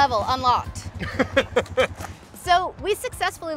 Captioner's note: laughing